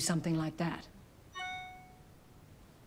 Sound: phone chimes

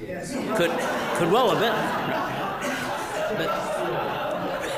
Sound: audience laughing

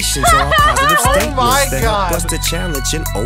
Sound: laughs

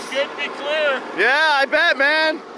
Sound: murmurs

